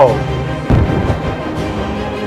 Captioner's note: boom